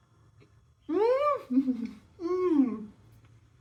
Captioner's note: happy mouth noises